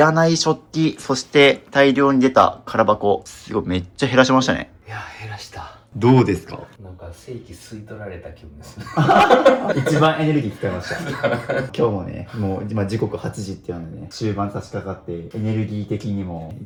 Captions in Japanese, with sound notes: いらない食器そして大量に出た 空箱すごいめっちゃ減らしましたね。いや 減らした どうですか? なんか正規吸い取られた気ですね。 [笑い]1番エネルギー使いました。 今日もね、もう、ま、時刻8 時っていうのでね、終盤さしかかってエネルギー的にも